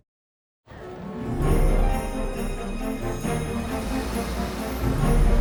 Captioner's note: bright festive music; bells jingling; traffic humming